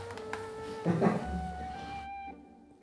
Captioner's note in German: Leises Lachen